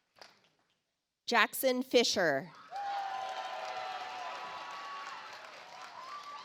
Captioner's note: audience applauds